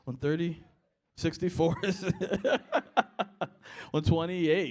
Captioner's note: laughter